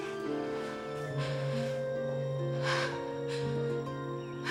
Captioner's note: heavy breathing